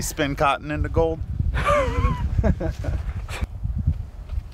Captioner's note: all laughing